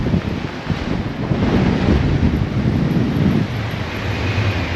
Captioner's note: wind fluttering